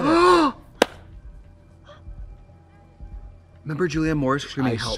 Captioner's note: Trixie gasps